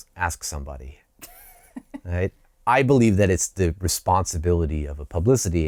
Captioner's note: laughter